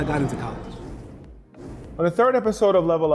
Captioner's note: air whooshes